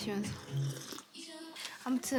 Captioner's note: slurp